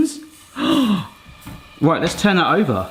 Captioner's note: gasping